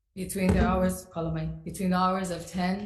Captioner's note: speaks foreign language